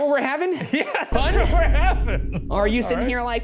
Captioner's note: laughs